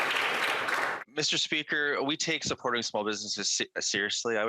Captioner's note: some Applause